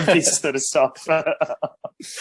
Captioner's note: BOTH laugh